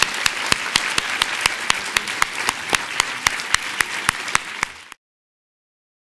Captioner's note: loud applause